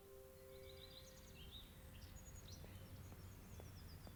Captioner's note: birds chirping